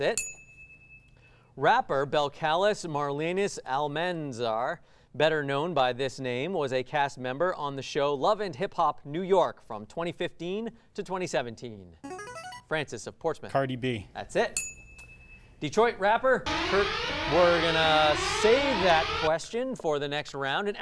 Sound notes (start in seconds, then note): 12.0 ring-in sound; 14.5 ding sound; 16.4 alarm sound